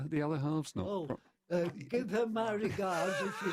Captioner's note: laughter